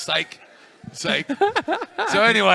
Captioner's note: laughter